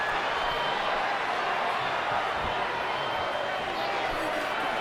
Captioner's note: crowd chattering